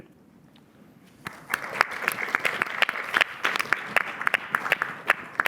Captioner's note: applause